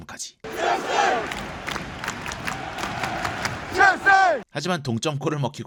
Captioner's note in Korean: 짝짝짝짝~~~ 첼시!!